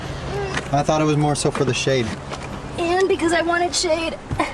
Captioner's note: grunting